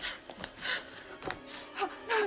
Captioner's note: the hypodermic thuds